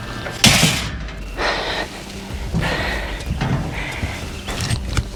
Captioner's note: heavy tailgate drops on red utility trailer